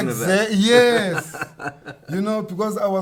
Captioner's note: laughs